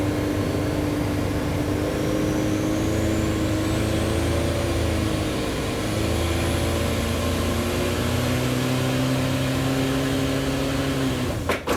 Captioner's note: engine noise